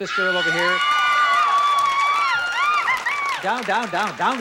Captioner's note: screams